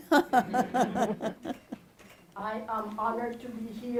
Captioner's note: laughter